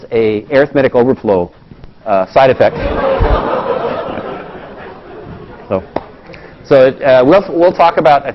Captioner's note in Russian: Смеется